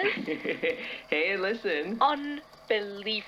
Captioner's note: laughing